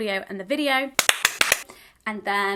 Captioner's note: clapping